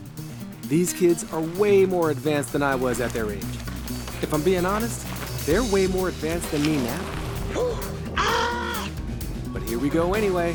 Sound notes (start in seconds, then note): 7.4 Baratunde exhales and yells